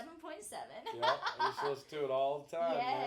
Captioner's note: laughing